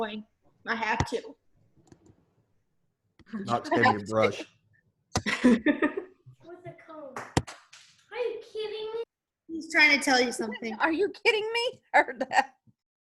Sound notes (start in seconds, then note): 5.2 laughing; 12.6 chuckles